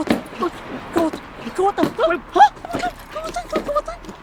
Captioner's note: woman shouts; woman muttering